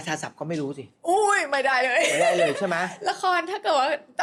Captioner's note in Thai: เสียงหัวเราะ